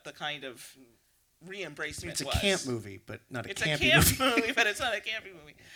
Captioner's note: laughing